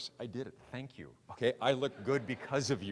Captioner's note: audience laughing